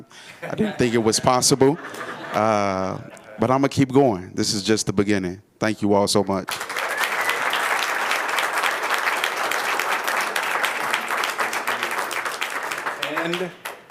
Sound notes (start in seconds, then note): 10.8 applause